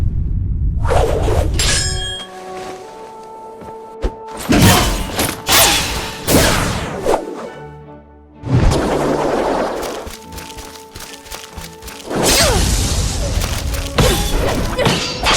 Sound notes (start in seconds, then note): 4.5 the sounds of magnets, mirrors, duct tape and wires